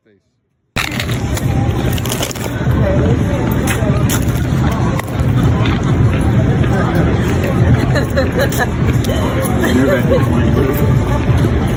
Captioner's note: crunch